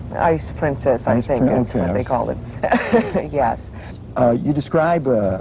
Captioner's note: laughs